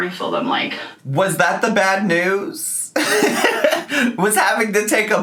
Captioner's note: laughing